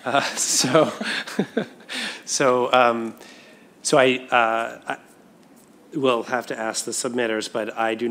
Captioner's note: laughter